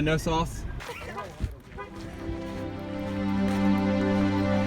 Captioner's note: car horn marks the beginning of a disturbing, emotional, powerful sequence